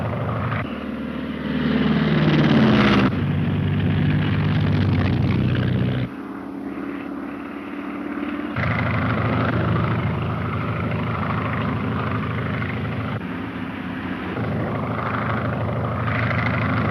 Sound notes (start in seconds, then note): 0.1 airplane engine roaring; 2.9 car engine revving; 6.9 airplane engine roaring